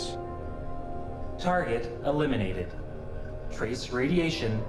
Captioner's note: computer voice